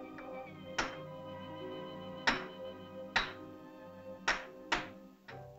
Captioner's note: rock bangs; whimsical music